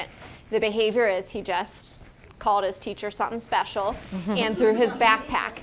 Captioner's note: laugh